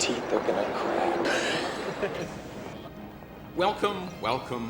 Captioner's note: laughing